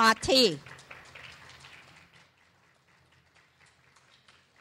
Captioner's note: clapping